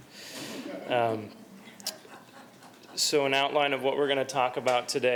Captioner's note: laughter